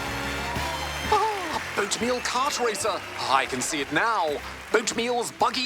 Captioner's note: chuckles